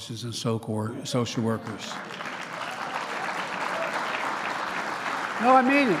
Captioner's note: applause